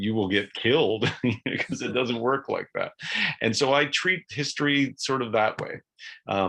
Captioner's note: chuckles